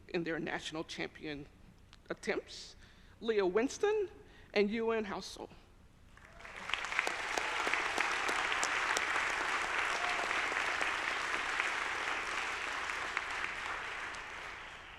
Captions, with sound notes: in their national champion attempts, Lea Winston and Yuanhao Zou. (audience applauding)